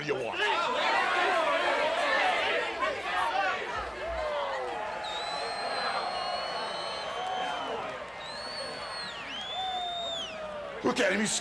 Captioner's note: applause